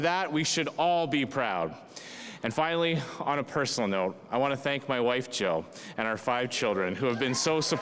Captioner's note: cheers and applause